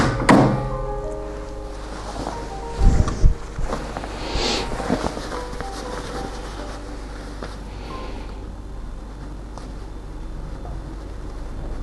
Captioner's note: clips rustling